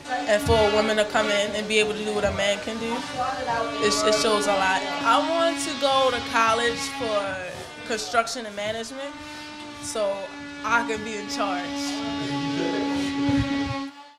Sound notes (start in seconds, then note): 11.8 drilling